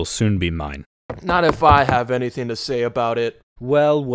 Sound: footsteps

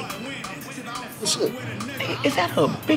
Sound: speaking away from mic

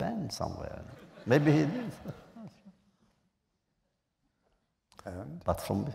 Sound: laughter

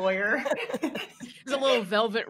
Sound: all laughing

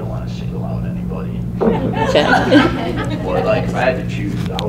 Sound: laughter

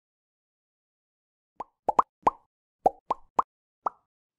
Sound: bubbles popping

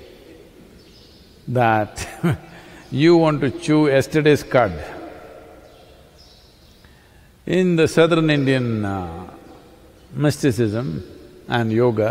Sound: laughs

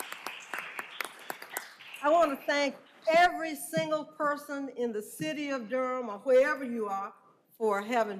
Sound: applause

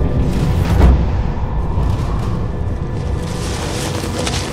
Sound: wind blowing

